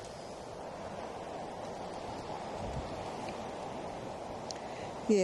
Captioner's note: wind whooshing